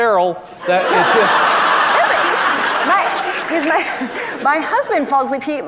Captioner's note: audience laughs